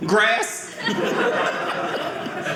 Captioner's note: audience laughing